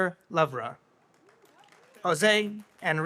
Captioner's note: audience applauds